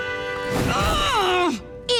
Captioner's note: grunting